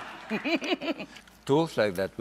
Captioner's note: laughs